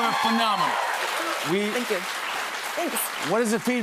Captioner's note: cheers and applause